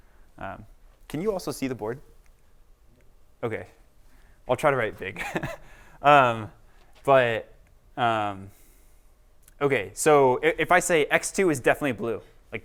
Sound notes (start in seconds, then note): 5.1 laughter